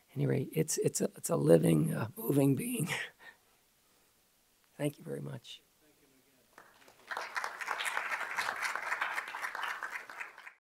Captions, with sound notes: At any rate, it's a living, moving being. Thank you very much. (clapping)